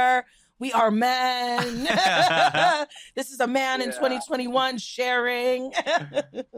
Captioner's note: laughs